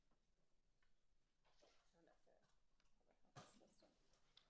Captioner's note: speaking faintly